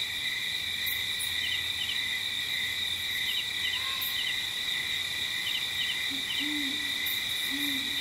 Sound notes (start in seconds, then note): 1.5 light jungle ambience